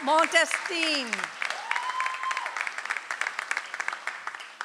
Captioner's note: audience applauds